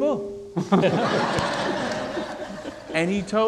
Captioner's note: audience laughing